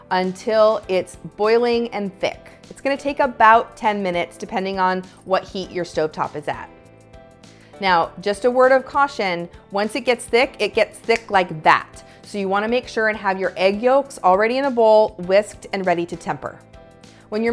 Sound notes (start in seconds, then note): 11.0 fingers snap